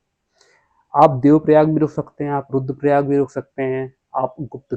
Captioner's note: nasal sound